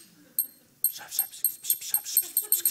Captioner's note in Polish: szept